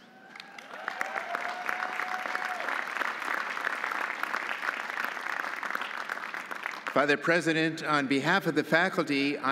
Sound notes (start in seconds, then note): 0.1 audience cheering; 0.2 audience applauding